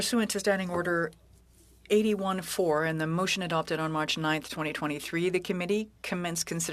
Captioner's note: speaking French